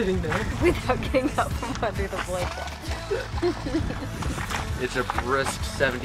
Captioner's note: laughs